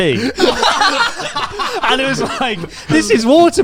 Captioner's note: all laughing